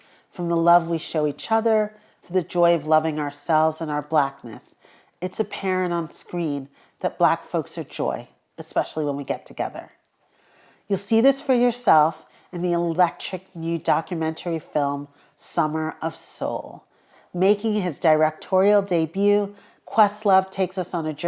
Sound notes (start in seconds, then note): none